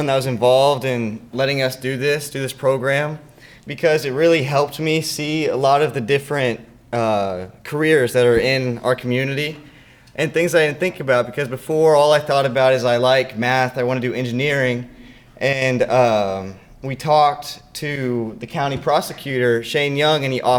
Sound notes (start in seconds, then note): none